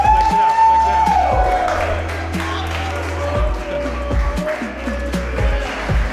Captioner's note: people cheering and applauding